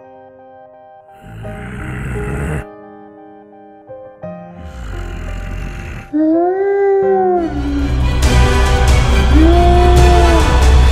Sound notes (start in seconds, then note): 1.1 grunts; 4.5 grunts; 6.6 wolf howl; 8.1 dramatic music